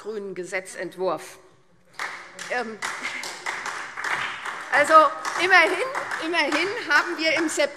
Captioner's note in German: Beifall SPD und Freie Demokraten